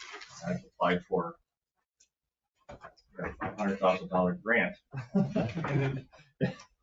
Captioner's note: chuckles